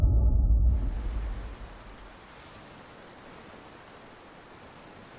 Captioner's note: heavy winds blowing